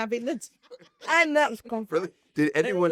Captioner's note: they laugh